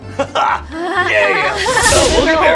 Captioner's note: laughing nervously